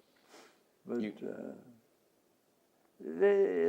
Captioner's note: laughs